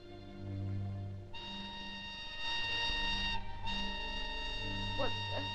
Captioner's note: whistle tooting